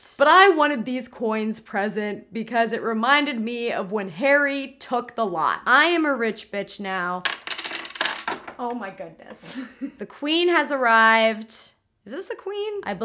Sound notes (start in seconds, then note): 7.2 coins clatter; 9.5 laughs